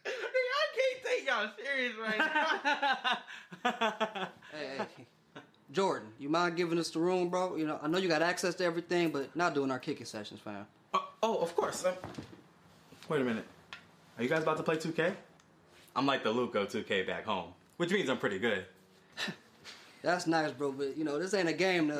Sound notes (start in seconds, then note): 2.0 Josh laughs